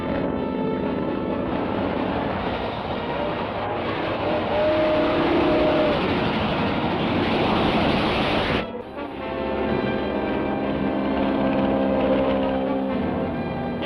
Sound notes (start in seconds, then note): 3.9 whistle toots; 9.9 airplane whirring